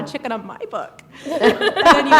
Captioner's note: laughter